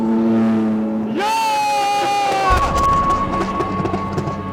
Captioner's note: team Exclaims